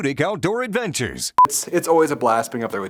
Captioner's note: beeps